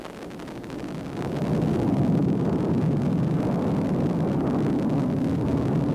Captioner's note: jet engine roaring